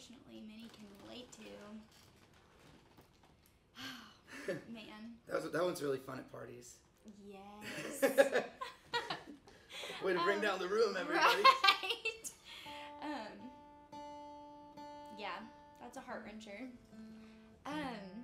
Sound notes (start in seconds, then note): 3.7 sighs; 7.7 both chuckles; 14.3 chuckles